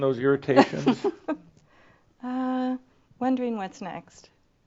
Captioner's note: chuckles